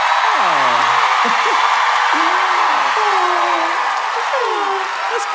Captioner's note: cheering